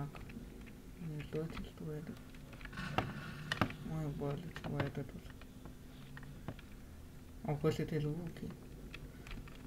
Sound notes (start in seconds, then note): 2.8 scary sound